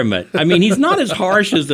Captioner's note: giggles